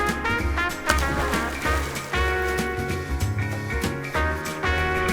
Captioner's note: water splashing